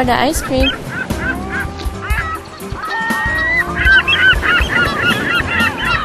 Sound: seagulls Cawing

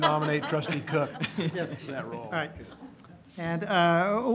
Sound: laughter

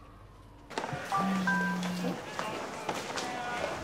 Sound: Bernie’s mobile sounds

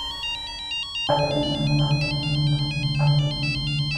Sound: phone ringing

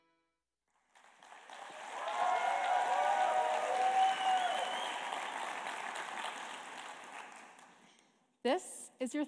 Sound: applause

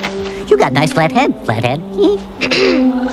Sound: laughs

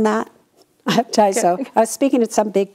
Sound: laughs

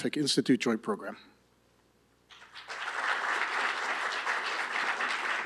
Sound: applause

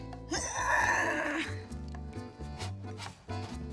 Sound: groans

